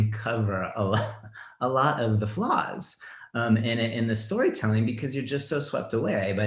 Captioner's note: chuckles